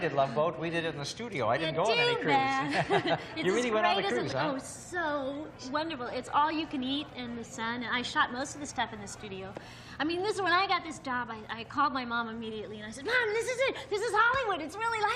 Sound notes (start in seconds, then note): 2.5 laughs